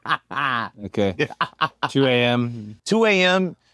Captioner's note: laugh